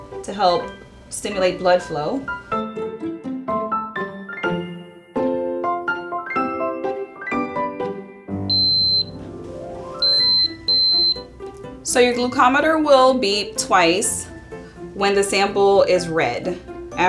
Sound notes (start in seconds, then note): 2.8 cheerful music; 8.5 glucometer beeping